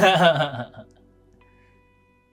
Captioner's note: laughing